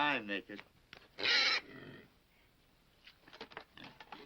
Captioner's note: pig squeals